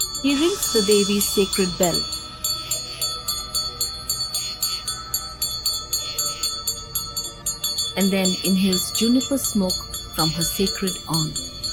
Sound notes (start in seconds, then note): 2.6 intense bells jingling